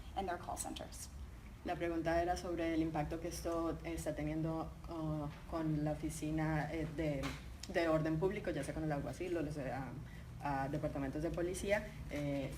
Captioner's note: speaking in Spanish